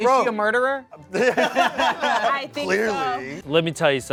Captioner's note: everyone laughs